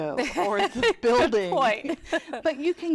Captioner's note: laughter